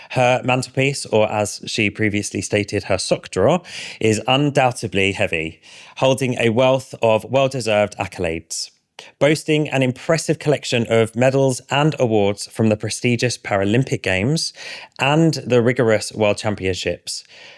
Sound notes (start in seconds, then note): none